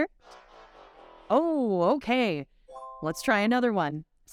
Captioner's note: disappointed music; bright chime